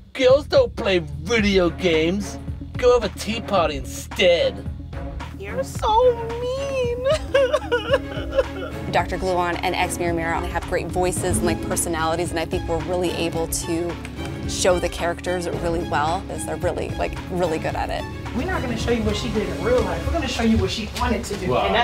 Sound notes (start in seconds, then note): 7.0 crying